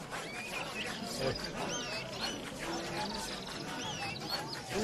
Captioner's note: bird chirping